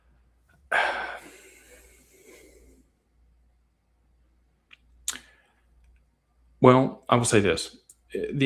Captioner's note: sighs and gasps